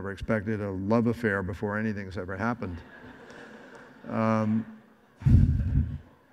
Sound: audience laughs

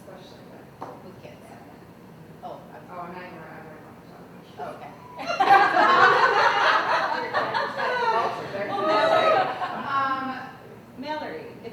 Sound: laughter

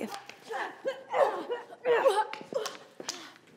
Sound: groaning

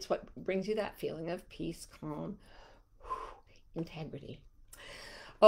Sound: exhales

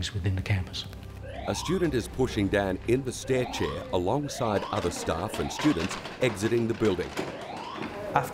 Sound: siren sound

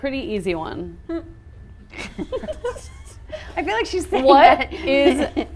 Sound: all giggling

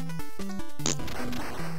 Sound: fart noise

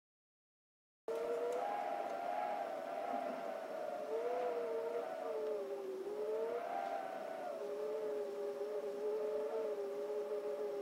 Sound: sound of whistling wind

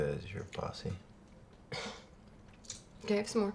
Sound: chuckles

